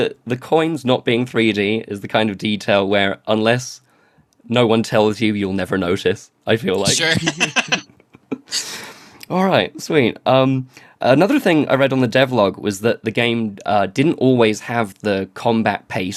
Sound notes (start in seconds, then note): 6.8 laughs